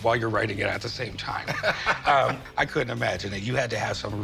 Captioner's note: laughs